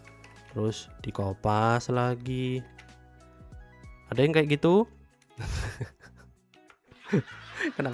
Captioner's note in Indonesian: tertawa